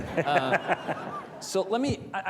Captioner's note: panelists and audience laughing